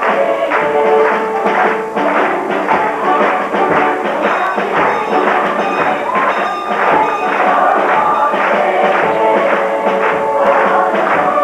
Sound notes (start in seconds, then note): 7.8 Santa rings bell as he enters